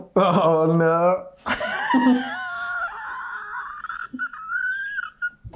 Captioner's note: both laughing